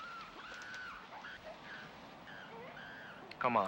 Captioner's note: animals squealing